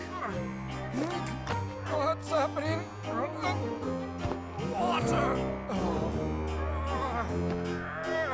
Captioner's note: groans and gasps